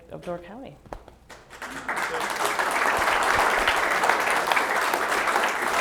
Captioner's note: applause